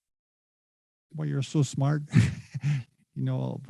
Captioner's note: chuckles